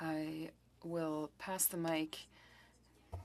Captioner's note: speaking French